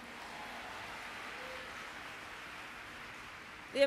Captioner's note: applause